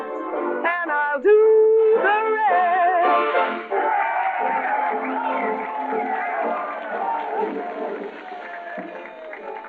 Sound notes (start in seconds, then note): 3.6 cheering